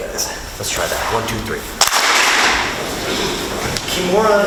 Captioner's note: group claps